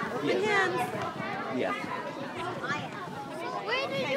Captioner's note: children chatting